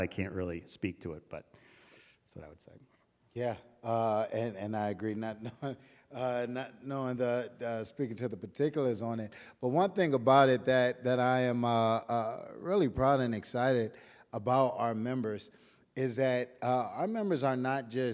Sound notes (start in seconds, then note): 5.2 chuckling